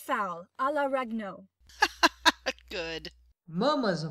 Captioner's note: laughing